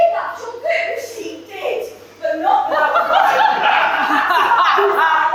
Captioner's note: audience laugh